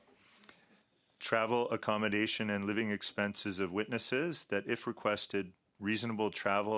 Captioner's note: speaking French